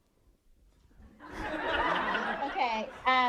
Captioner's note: audience laughing